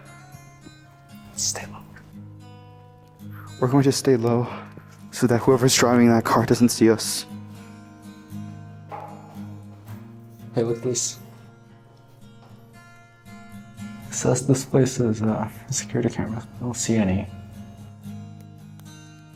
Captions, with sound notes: *Whispers* Stay low We're going to stay low so that whoever's driving in that car doesn't see us. Hey, look at this. This says this place is uh security camera. I don't see any.